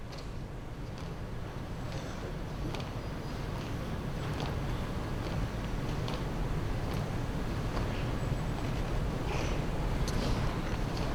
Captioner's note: foot steps